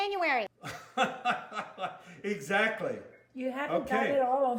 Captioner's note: laughs